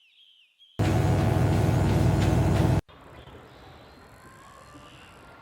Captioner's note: electric buzzing; meditation music